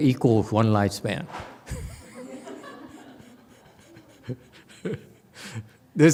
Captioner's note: laughs, audience laughs